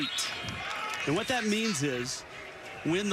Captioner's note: whistle